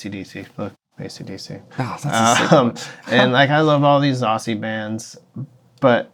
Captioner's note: laughter